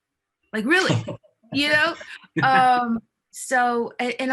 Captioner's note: laughing